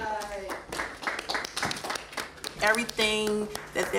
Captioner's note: class applauding